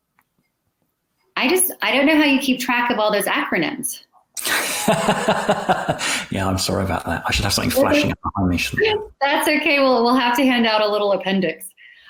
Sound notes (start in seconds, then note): 4.4 laughs